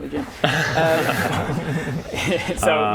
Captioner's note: promotional laughs